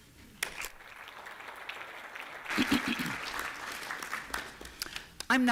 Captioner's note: applause